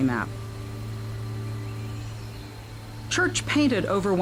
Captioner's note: birds chirping